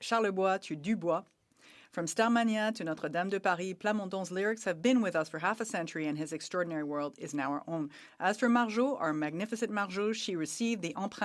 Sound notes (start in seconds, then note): 3.6 speaking French